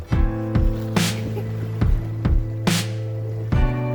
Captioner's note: laugh